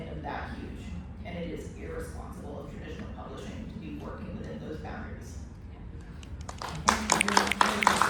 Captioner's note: applause